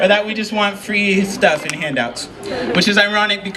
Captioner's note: chuckle